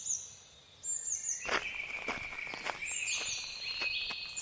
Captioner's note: sound of footsteps on gravel retreating